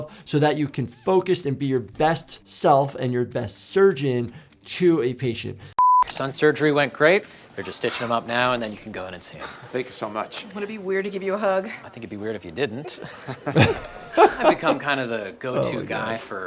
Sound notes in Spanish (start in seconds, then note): 5.8 pitido de pantalla; 12.4 riendo